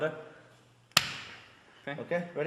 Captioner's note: chest slapping